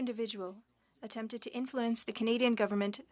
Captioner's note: speaking French